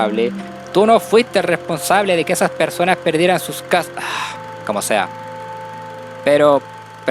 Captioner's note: sigh